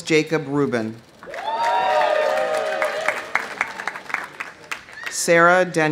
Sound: audience applauding; audience cheering

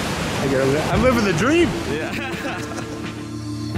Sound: laughs; relaxing music

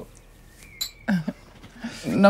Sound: chuckles

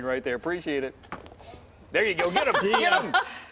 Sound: laughter

